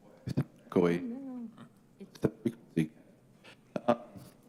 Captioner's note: audio clipping